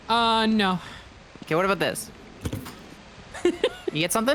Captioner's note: mic rustles, laughs